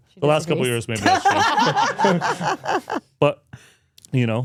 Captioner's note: everyone laughs